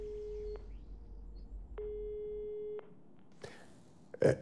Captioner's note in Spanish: Tono de la otra línea